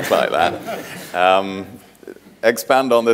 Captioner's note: audience laughing